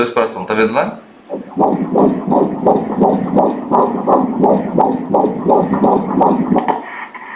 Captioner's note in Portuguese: batimentos cardíacos